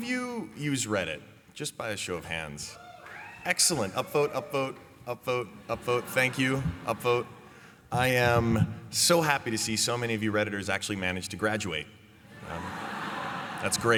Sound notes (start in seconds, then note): 2.7 cheers; 12.3 laughter